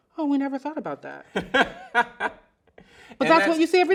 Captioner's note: laughs loudly